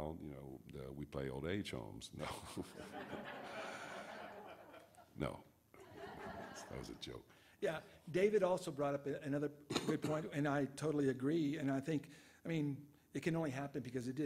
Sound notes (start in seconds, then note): 2.7 audience laughs